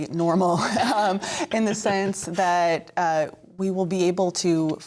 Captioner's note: laughter